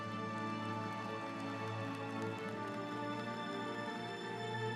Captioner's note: audience applauds